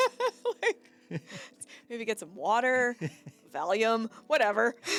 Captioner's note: laughing